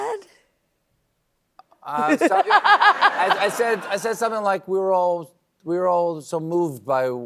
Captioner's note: laughs